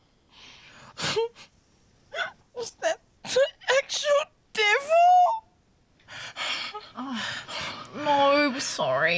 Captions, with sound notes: - (WHIMPERS) Was that... the actual devil? - Oh. No, sorry.